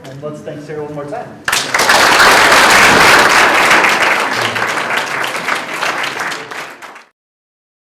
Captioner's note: audience Applause